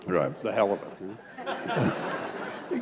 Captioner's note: laughter